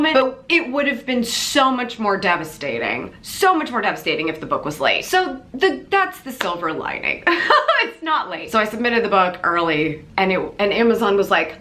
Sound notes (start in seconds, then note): 7.3 laughs